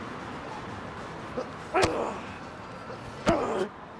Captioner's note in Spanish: Gruñe